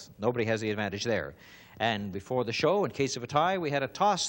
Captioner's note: none